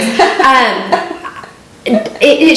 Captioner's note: laughing